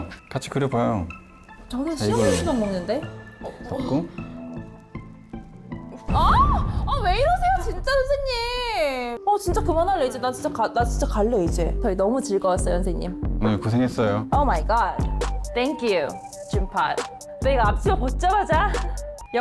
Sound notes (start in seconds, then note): 2.0 enthusiastic sound effect; 6.1 exploding sound effect